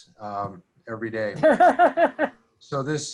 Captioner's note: laughing